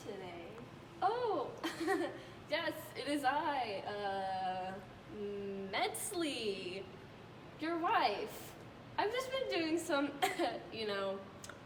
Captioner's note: fake laugh; cough cough